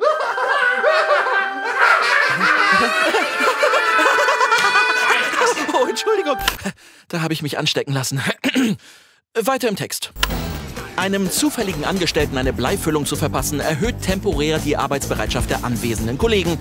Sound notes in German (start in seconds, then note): 0.0 Irres Lachen; 1.8 Irres Lachen geht weiter; 3.3 lacht mit; 8.4 Räuspern